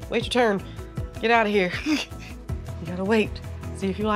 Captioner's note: laughs